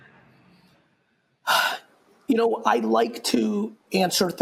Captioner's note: sighs